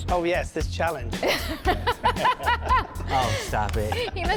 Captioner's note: laughing